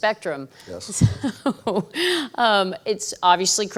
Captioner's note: laughs